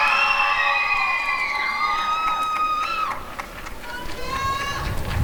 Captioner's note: applause and cheering